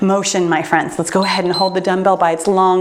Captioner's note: timer beeps